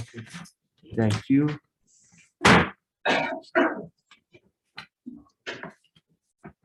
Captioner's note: gavel bangs